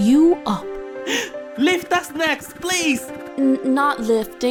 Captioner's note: gasp